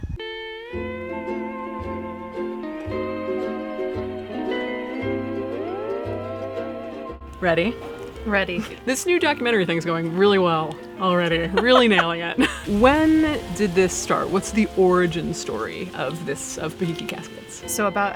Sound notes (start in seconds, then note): 0.5 cheerful Hawaiian music; 11.1 laughing